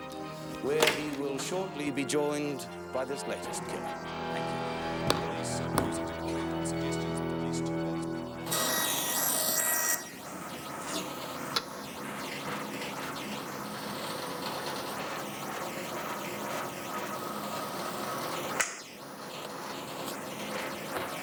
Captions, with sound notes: where he will shortly be joined by this latest killer. Thank you. (dramatic music) (power tools whirring)